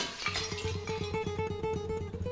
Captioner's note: crashing